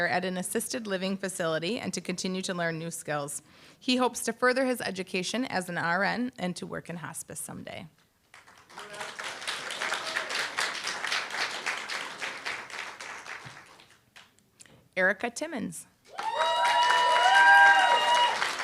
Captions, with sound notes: at an assisted living facility, and to continue to learn new skills. He hopes to further his education as an RN and to work in hospice someday. [APPLAUSE] Erica Timmons. [APPLAUSE, CHEER]